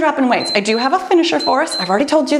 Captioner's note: timer beeps